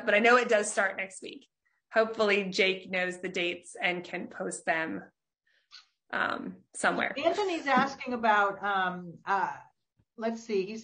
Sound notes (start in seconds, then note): 6.5 laughs